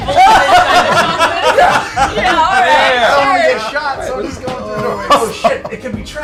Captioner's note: laughter